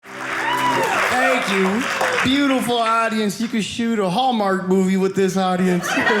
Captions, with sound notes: (audience cheering) Thank you, beautiful audience. You could shoot a Hallmark movie with this audience.